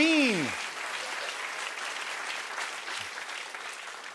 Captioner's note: applause